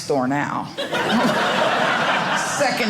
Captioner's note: audience laughing